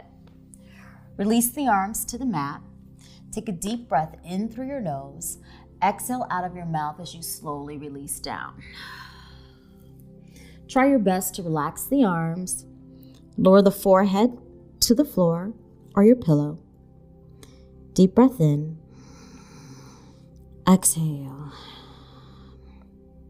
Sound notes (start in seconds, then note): 8.7 exhaling; 19.0 inhaling; 21.6 exhaling